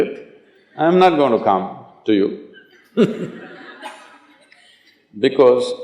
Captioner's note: laughter